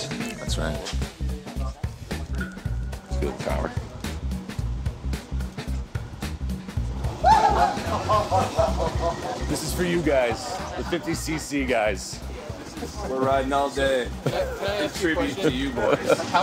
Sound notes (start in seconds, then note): 3.5 rock music; 7.1 squels and laughter